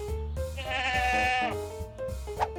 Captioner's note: bleating